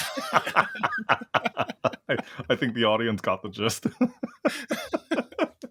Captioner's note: laugh